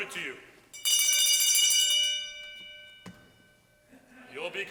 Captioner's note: bell ringing